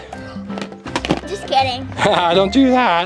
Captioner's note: laughs